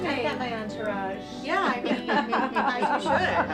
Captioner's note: laughing